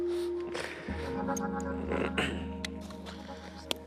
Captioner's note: clears throat